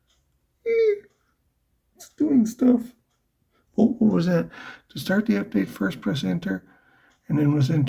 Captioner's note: scared squeak